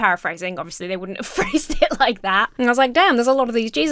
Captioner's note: chuckles